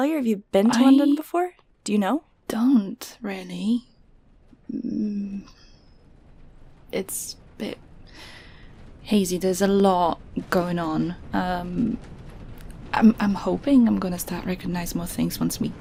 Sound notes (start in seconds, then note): 1.4 the train begins to rumble over the tracks; 2.9 hesitantly